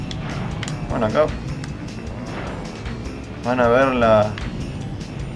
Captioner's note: the Big stoneball making a sound